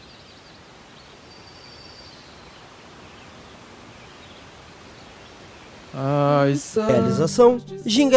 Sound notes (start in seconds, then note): 0.0 nature sounds; 6.8 regional music